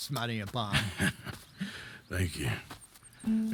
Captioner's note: laughs